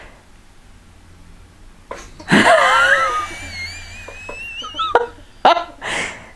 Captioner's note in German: lacht